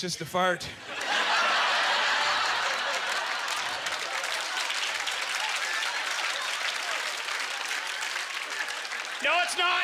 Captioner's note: audience chuckling; applause